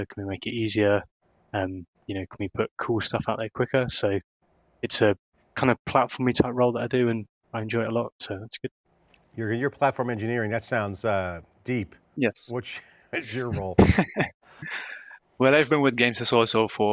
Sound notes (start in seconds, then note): 13.1 laughing